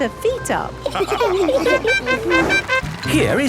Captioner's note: all laughing; horn tooting